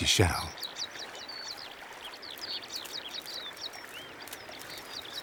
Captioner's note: birds singing